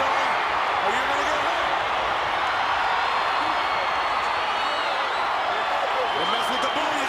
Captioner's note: crowd cheering